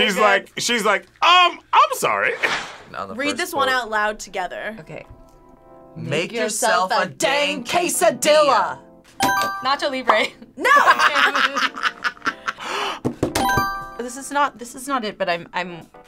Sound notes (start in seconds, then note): 9.1 buzzer rings; 10.6 both laugh; 12.4 buzzer rings; 12.5 gasps